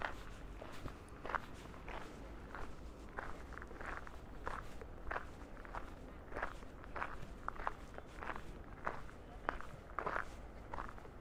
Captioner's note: footsteps